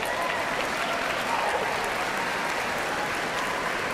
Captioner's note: cheers and applause